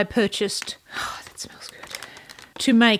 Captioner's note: whispers